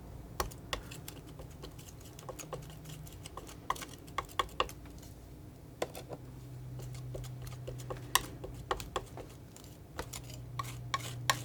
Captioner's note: tapping